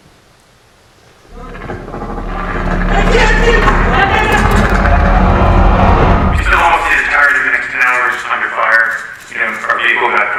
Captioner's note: rumbling